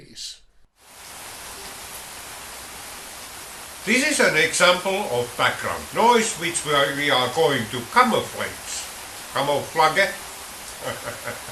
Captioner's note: speaking in the rain